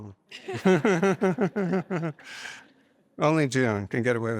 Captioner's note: laughter